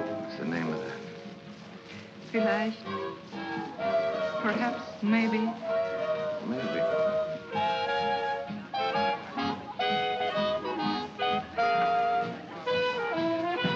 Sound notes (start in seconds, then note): 2.2 speaks in German